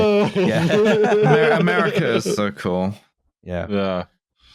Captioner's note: laughter